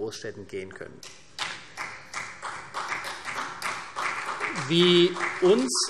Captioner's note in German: Beifall CDU